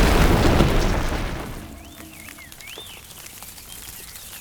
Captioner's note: birdsong